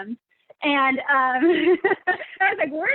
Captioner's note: chuckles